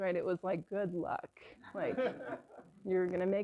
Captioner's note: laughter